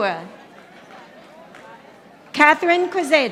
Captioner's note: audience applauding